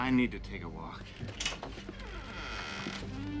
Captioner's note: door slams shut; soft music